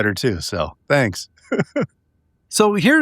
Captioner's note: laughing